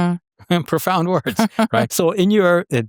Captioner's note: chuckles